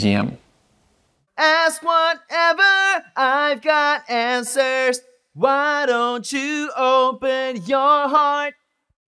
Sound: demonstration Vocal Sonud

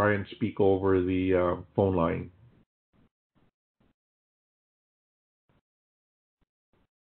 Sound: pause

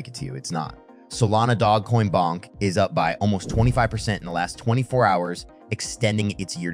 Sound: bonk

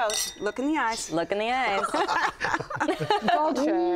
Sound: laughing

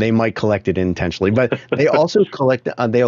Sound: chuckling

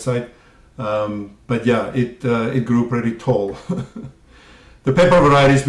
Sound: laugh

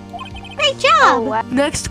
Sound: high-pitched voice

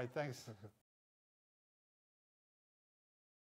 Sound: silence

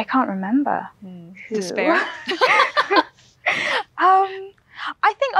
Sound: laughs

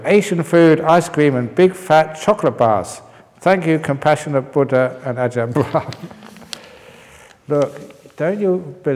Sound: laughs

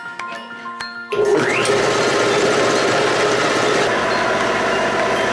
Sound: machine running

